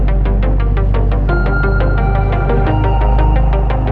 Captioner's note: boat rumbling